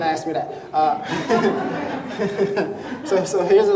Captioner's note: crowd laughing